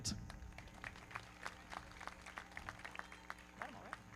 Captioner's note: everybody clapping